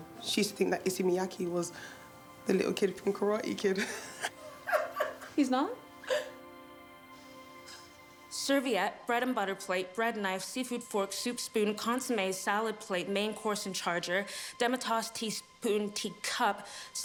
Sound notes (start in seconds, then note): 3.8 laughs